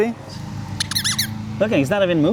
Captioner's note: squeaking